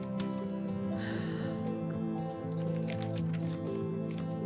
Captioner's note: sighing